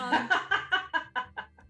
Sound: laughter

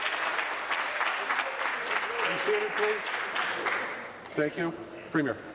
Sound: some Applause

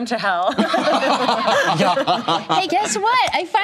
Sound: laughter

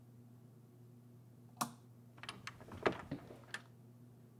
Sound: door creaks open

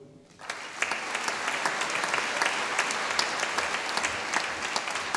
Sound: audience applauding

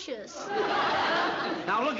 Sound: laughter

